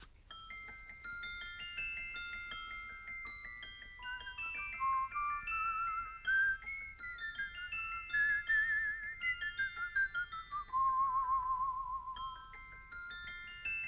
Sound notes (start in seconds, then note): 4.1 whistling the tune